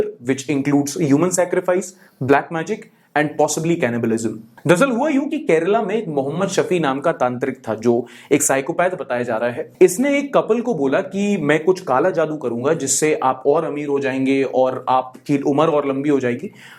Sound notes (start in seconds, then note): none